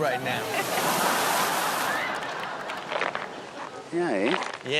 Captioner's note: audience laughs